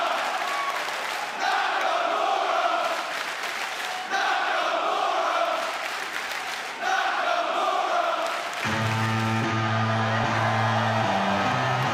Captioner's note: fans chanting